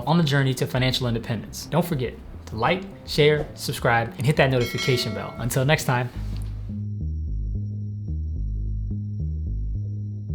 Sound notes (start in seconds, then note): 4.5 bell dings; 6.3 upbeat music